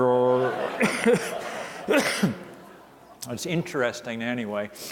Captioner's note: audience laughing